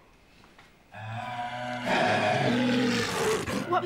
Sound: growling

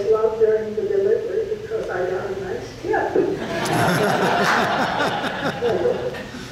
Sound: audience laughs

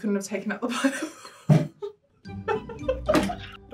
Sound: laughing

